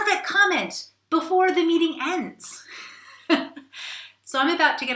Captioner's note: laughs